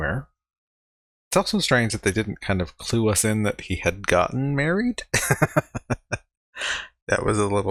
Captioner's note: laughing